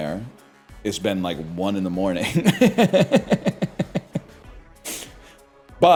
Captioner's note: laughs